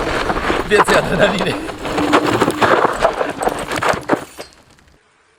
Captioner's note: polish tire burnout noises on gravel